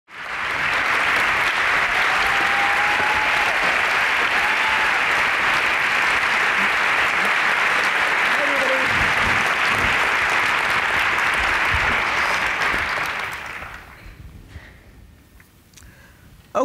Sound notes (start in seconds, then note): 0.0 applause